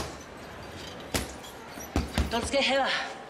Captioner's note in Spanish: Puñetazos